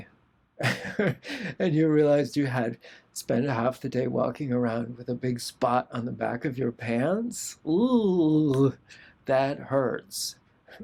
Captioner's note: laughter